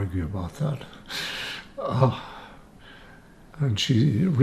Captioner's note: laughing